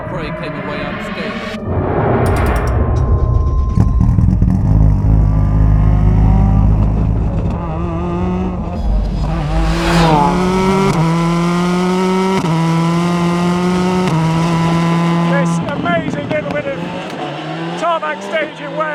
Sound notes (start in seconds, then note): 3.9 engine burbling; 8.0 engine rasping